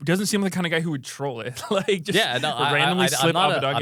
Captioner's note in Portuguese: risos